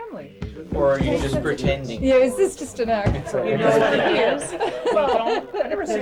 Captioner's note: laughs